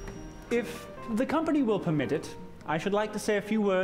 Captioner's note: clinking of glass